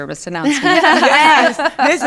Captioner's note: all laugh